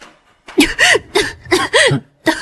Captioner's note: cough cough